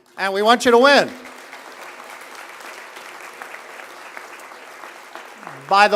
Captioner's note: applause